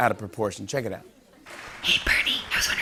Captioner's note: whispering